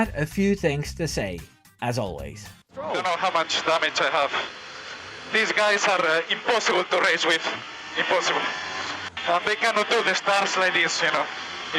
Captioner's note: radio